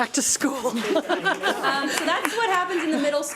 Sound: audience applauds

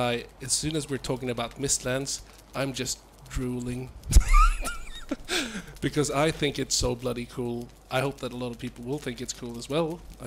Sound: laughs

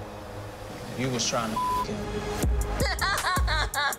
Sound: beep; laughs

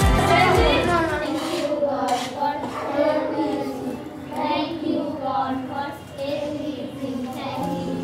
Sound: children praying

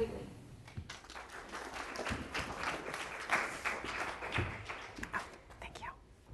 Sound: applause

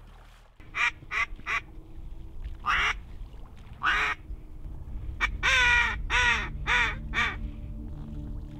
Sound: duck calls

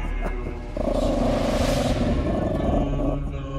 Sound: dog growling

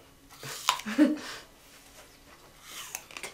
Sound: George bites and chews hard

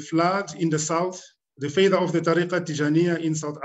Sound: speaking arabic

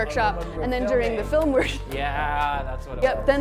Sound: laughs

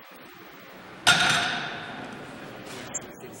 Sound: barbell hits floor

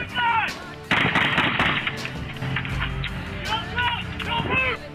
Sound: shots firing

